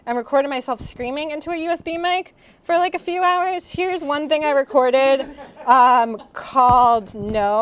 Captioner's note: laugher